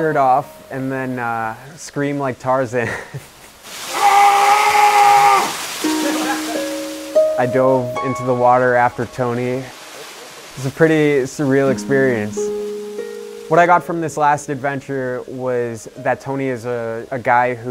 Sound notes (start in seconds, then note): 3.9 Tony yells